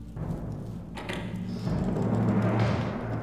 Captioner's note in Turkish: Kapı açılma sesi